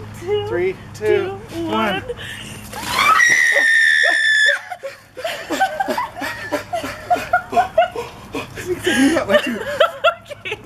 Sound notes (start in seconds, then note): 2.7 splash; 2.8 screaming; 5.3 trying to catch breath